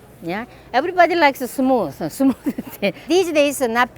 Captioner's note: laughs